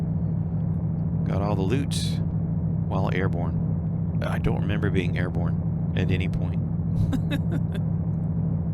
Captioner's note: laughs